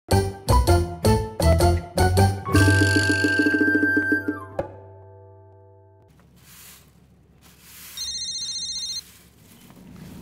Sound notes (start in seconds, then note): 7.9 phone ringing